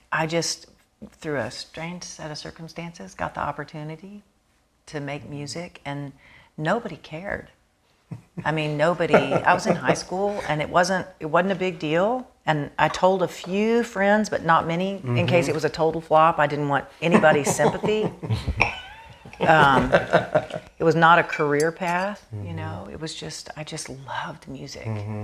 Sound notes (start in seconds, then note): 18.8 laughing